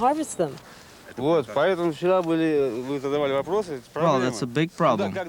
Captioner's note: speaking foreign language